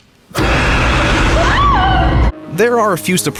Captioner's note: screams